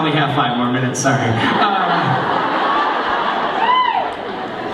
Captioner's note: laughing